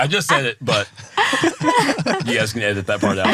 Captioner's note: laughing